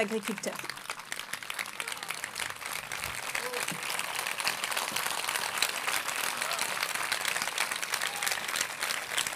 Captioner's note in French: Applaudissements